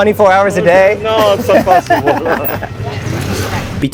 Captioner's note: laughter